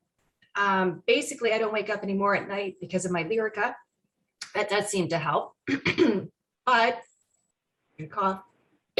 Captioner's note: coughs